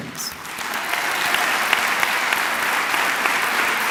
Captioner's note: clapping